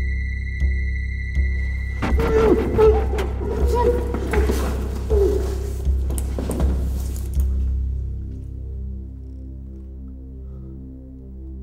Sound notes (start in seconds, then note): 1.7 dramatic chord; 2.0 muffled crying out; 7.6 ominous music